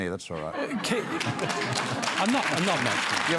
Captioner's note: applause